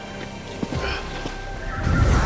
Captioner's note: Hartley grunting